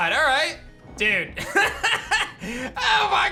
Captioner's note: laughs